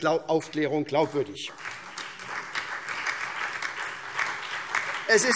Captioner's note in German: Beifall SPD, Freie Demokraten und DIE LINKE